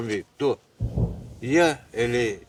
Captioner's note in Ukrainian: віддалений звук вибуху